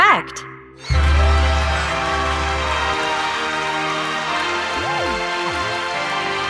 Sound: crowd cheering

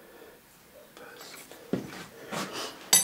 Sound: whispering

